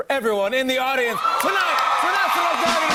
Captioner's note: cheers and applause